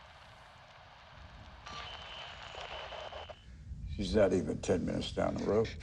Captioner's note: signal interference